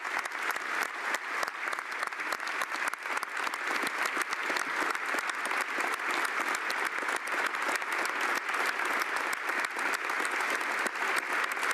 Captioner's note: applause